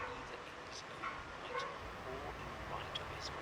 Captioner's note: radio Announcer